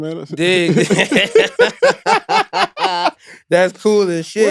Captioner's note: laughing